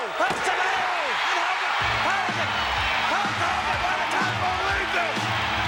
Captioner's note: crowd cheering